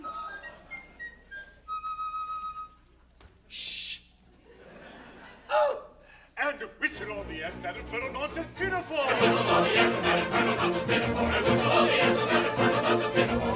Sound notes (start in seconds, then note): 0.0 whistle plays; 3.5 general sushes